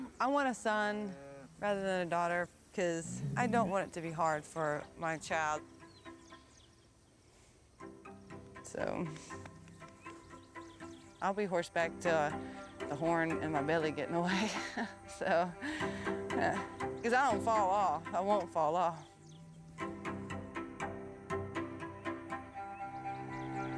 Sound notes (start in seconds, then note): 6.2 playful music; 14.3 laughs; 20.2 playful music continues